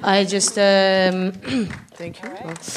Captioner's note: some applause in the room